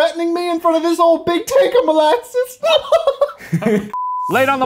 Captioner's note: laughing